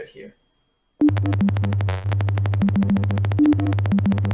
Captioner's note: beeping